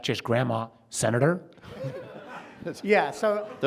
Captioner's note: audience laughing